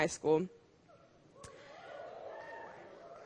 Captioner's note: cheering